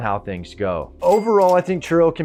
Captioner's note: cash register dings